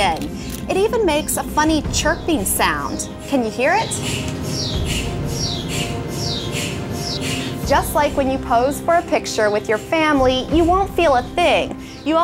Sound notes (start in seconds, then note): 5.8 chirping